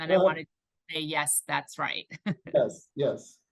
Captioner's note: laughs